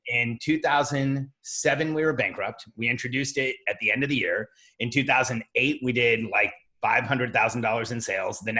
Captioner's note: none